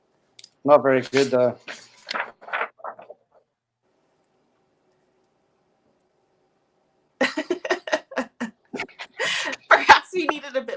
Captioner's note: laughs